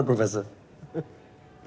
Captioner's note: chuckles